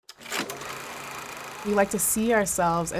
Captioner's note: sound of projector whirring